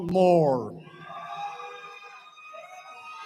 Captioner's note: cheering